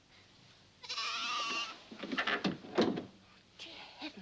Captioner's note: goat bleating